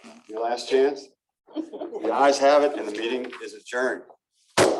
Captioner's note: laughter